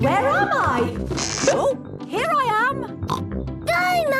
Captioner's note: pops